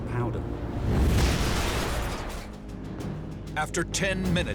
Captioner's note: plane crashing